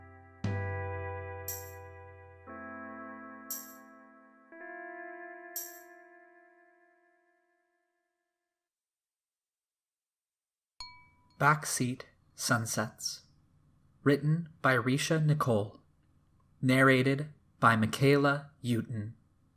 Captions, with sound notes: [music stops] [chime sound] "Backseat sunsets" written by Risha Nicole narrated by Mykaela Euton